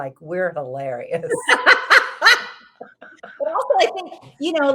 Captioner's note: both laughs